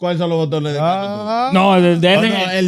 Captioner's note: speaking Foreign Language